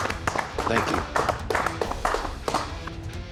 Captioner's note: clapping